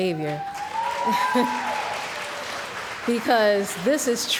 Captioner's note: cheering & Applause